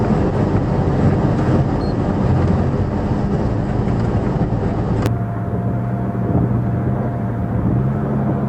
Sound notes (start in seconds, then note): 5.6 engine, electric fan, light wind noise